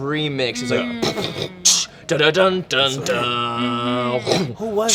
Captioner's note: beatboxing